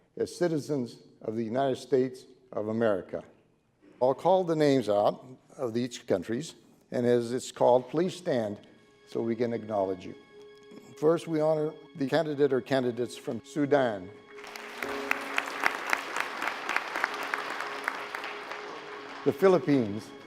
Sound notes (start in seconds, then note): 10.7 soft music; 14.4 clapping